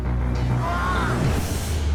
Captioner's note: man screaming